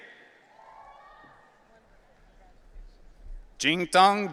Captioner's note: audience cheering